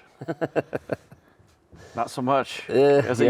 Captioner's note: laughing